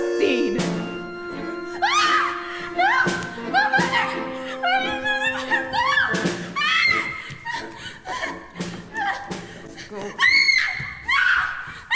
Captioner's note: screaming